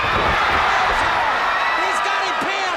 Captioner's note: crowd cheering